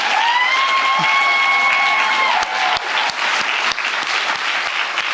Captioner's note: audience cheering